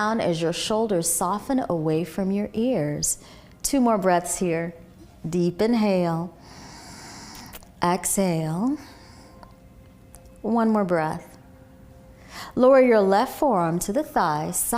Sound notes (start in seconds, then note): 6.4 exhaling; 6.4 inhaling